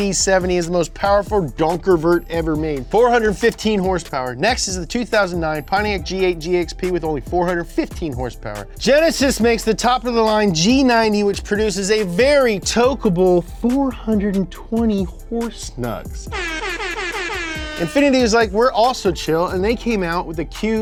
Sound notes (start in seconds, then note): 16.2 blow horn